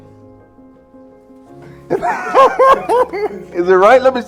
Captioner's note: laughter